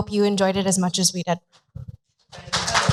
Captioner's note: applause